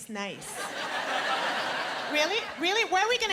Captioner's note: laughter